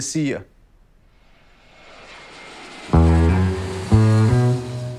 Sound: airplane engine

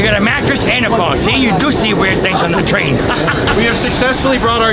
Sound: laughs

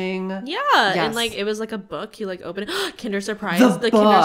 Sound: gasp

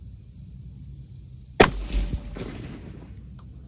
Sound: report of the rifle

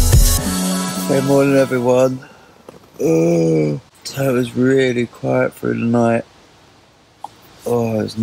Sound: yawn

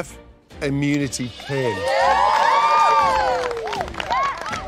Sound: cheering

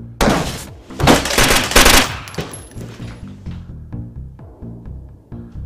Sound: gun firing; door thuds

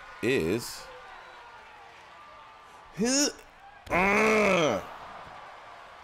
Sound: applause

